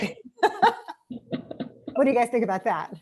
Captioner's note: laughing